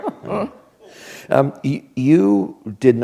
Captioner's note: laughter